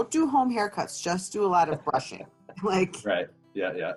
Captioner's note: laughing